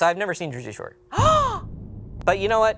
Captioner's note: gasps